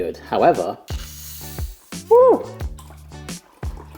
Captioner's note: hiss of cap opening